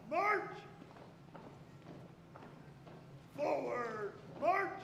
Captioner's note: feet tapping